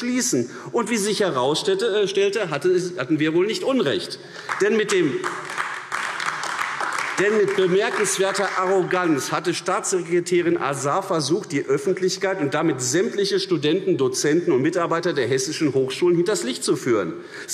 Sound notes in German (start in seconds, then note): 4.3 Beifall AfD